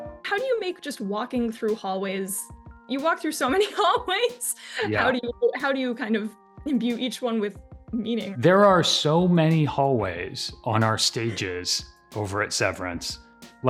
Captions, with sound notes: - How do you make just walking through hallways... You walk through so many hallways. (laughing) - Yeah. - How do you kind of imbue each one with meaning? - There are so many hallways on our stages over at "Severance."